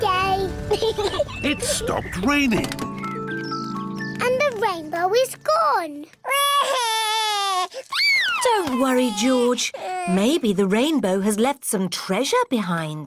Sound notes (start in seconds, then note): 0.7 peppa pig laughs; 6.3 cries